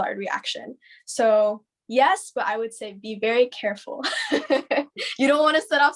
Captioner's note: laughs